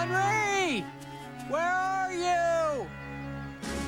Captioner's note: all yell